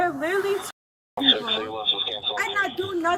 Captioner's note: radio chatter